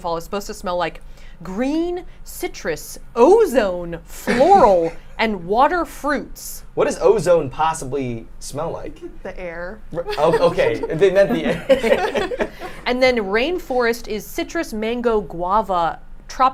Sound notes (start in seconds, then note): 10.0 group laughs